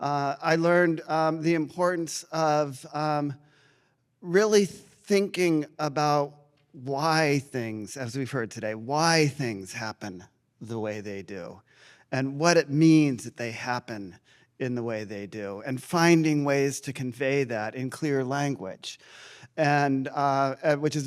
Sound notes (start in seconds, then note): none